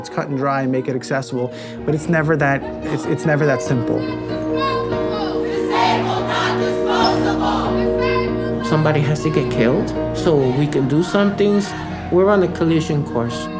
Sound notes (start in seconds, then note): 4.2 multidão